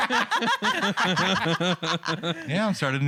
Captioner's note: laughter